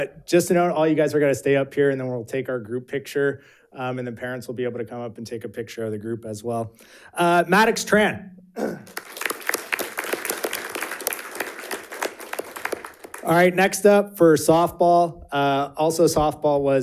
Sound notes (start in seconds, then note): 8.8 audience applauding